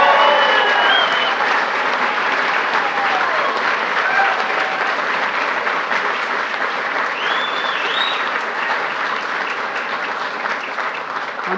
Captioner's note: applause